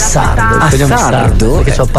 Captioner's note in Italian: radio